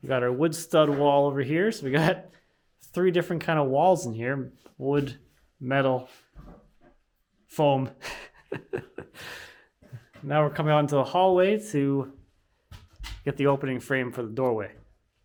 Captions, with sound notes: We got our wood stud wall over here. So we got three different kind of walls in here. Wood, metal, foam. (laughs) Now we're coming out into the hallway to get the opening frame for the doorway.